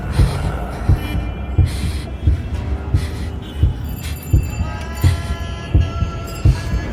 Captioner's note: heavy breathing continues